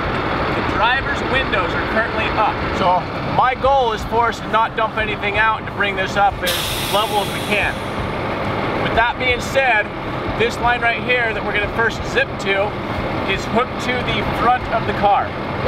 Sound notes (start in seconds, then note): none